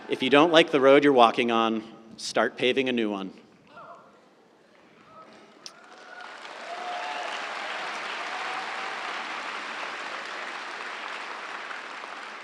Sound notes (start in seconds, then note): 5.7 audience applauds